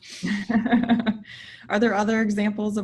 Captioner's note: laughs